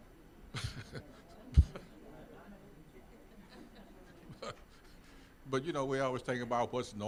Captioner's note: laughing